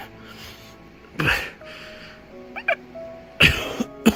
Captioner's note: struggling to breathe; blood coughing